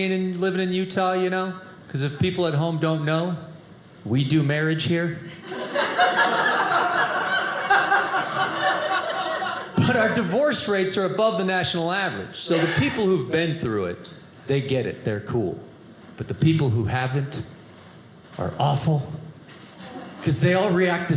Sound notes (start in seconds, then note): 7.9 audience laughing